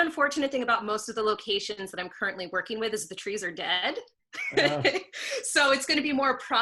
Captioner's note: laughs